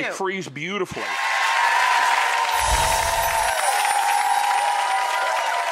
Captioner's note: audience applauds and cheers